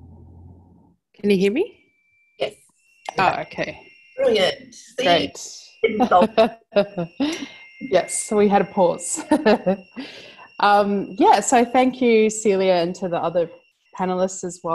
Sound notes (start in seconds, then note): 5.9 laughs